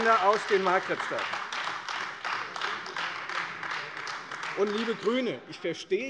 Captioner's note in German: Beifall Freie Demokraten und AfD